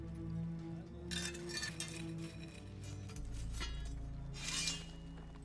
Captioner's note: metal scraping